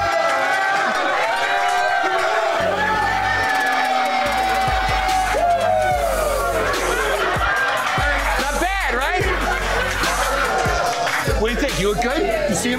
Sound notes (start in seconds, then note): 0.2 cheers; 6.5 laughter; 9.0 cheers